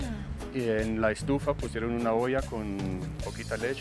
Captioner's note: both speaking Spanish